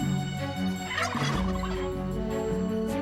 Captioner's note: gobbling